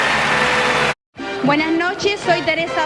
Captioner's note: in Spanish